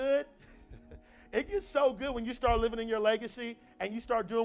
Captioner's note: laugh